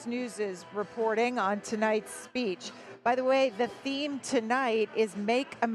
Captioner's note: none